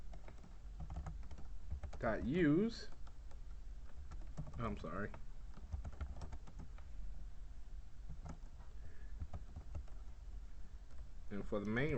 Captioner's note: typing sounds